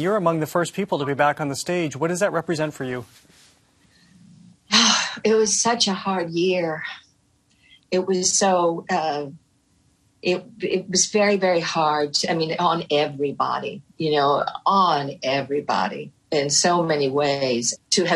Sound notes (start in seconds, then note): 4.4 sighs